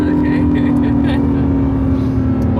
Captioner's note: nervous Laughter